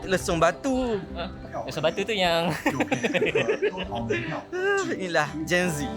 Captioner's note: laugh